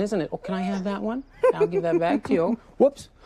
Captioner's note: laughs